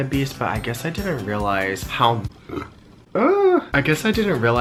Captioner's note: burps